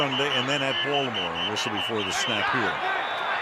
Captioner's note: whistling